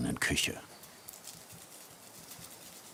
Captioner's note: crackling